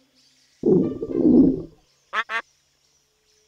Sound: quacks; stomach growling

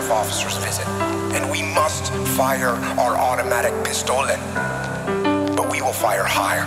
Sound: speaks in German

